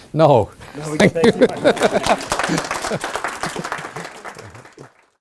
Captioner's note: chuckling and applauding; audience applauding